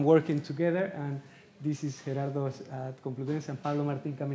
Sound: speaking Spanish

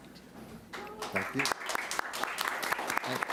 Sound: applauding

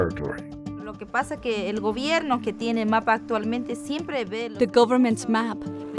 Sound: speaking native language - wao terero

